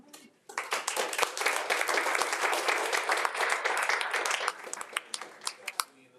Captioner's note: attendees and board members applauding